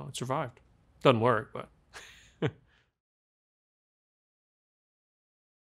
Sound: chuckles

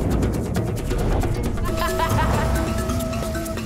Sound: laughing

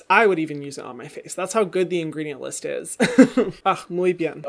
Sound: laughs

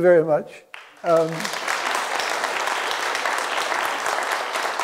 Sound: audience applauding

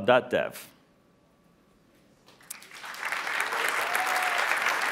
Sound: applause

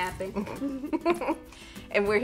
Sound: laughing

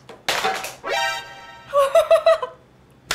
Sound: thud; phone falls

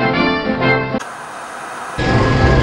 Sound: calm music; static hissing; tense music

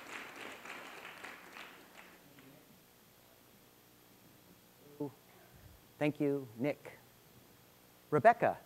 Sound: applause

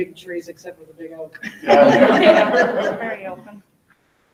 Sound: people laughing

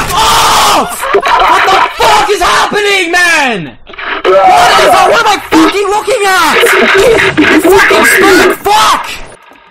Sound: laughter

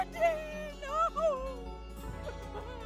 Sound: sobbing

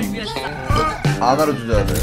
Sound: burp

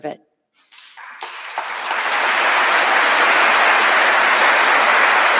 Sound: audience applauding

